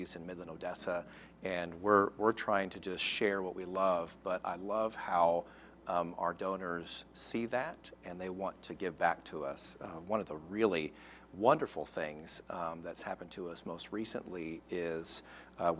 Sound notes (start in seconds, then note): none